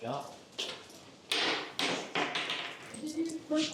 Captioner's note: bits clatter